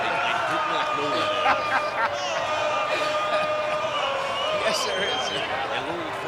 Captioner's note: laughs